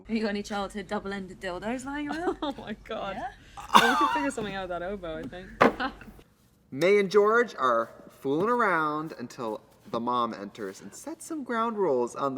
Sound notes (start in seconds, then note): 3.5 Katya laughs